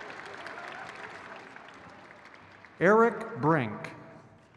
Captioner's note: crowd cheers